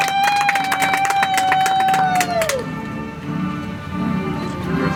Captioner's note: audience applauds